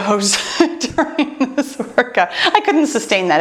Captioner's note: laughs